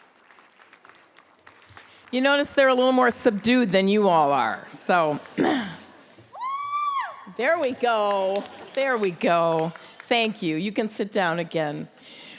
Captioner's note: applause